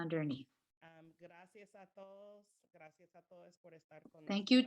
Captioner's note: speaking spanish